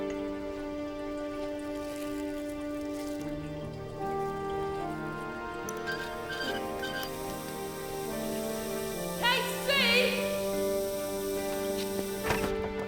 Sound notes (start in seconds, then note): 6.0 hissing